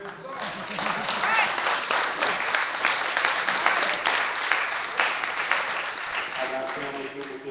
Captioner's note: clapping